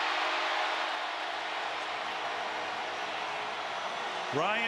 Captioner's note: cheering